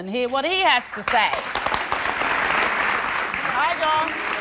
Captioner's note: applause